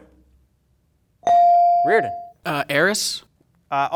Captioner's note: bell dings